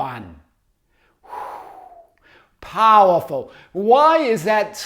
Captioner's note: exhales